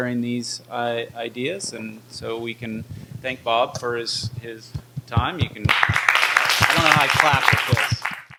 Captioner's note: applause